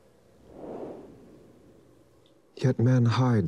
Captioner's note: air whooshes